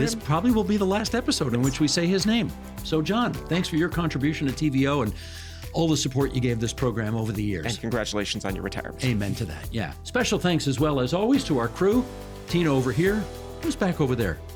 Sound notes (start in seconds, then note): none